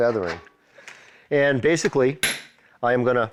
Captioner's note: hammering